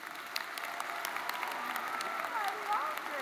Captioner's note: audience cheers